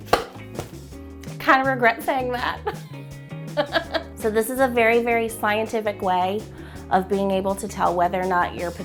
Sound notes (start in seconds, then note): 3.6 laughing